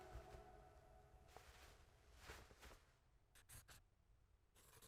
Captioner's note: clothes rustling